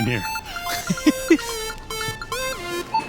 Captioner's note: laughs